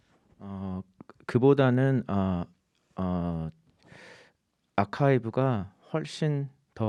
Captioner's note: speaking in Korean